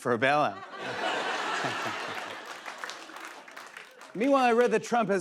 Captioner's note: laughter